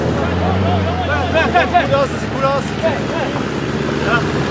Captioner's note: cheers of encouragement